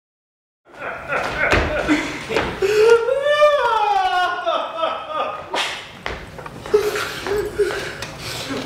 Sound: sobbing and footsteps

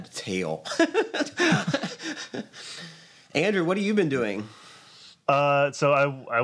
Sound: laughs

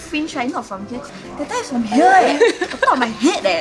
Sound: giggles

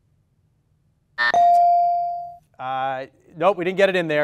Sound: timer and ding sound simultaneously

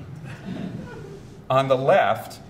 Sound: audience chuckles

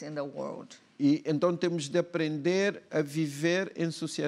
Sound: speaking portuguese

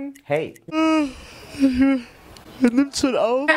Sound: yawn

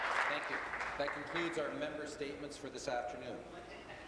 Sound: applause

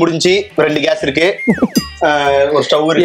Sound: chuckles

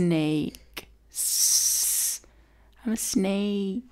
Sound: hisses

